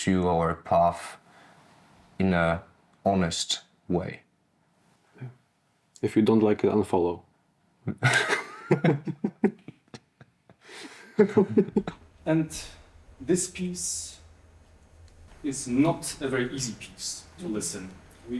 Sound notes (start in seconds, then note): 7.9 laughter